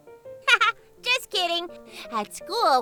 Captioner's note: laughs